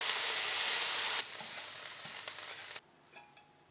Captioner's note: sizzling